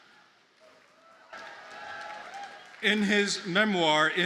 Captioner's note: audience cheers and applauds